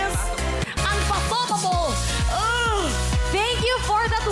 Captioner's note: groans